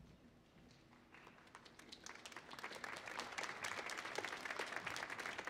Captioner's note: audience applauds